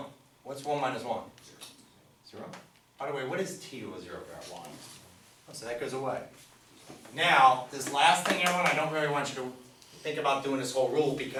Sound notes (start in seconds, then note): 5.2 voiceover